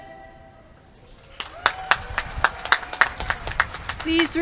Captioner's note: applause